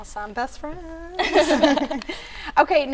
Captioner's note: all Laughing